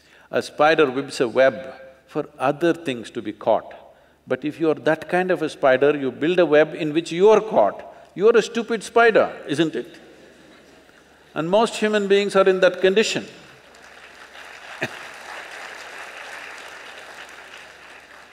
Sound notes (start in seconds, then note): 9.9 few Laugh; 16.0 applause; 17.3 laughs